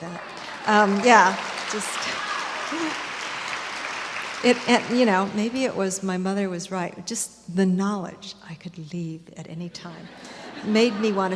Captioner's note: applause and cheers; laughter